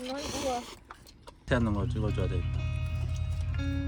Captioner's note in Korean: 콧방귀